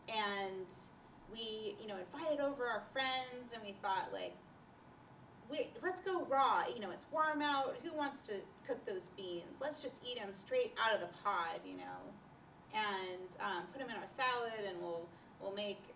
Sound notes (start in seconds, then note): none